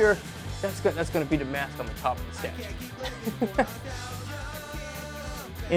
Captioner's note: laughs